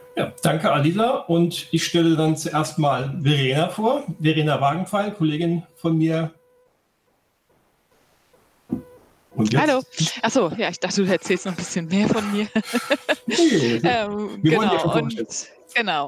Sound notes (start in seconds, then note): 11.7 haha; 12.1 laughter